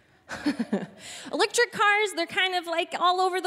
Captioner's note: chuckling